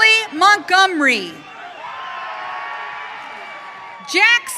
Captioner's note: audience cheering